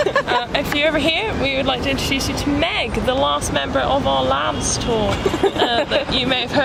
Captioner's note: laugh; laugh